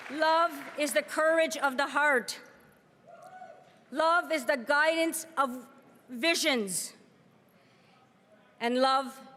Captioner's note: cheering and applause